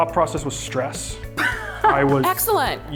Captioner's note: laughs